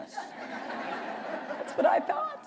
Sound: laughter

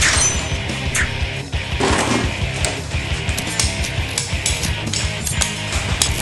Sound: rattle of tools; clink, clink; squirt

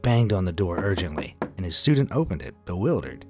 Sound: knocking on door

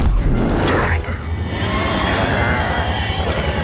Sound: growling

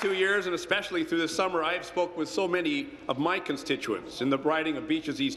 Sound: applause

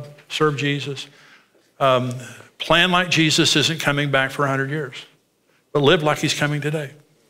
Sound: none

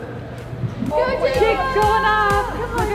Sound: cheering

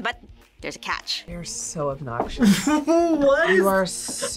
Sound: laughs

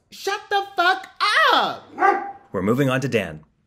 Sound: dog bark

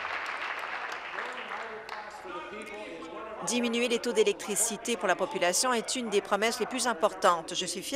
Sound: applause

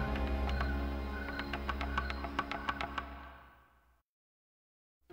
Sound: clopping sound

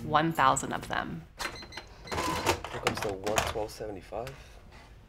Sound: cash register beeping

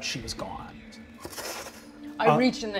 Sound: imitates moths fluttering

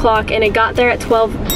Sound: bell dings

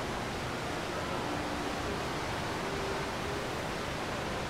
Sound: water rushing

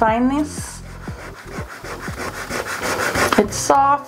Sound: eraser rubbing

